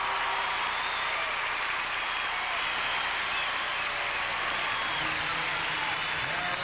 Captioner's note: applause